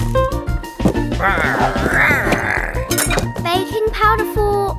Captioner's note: big Lizard growling